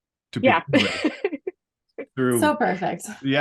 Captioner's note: laughs